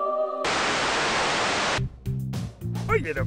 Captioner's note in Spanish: Estática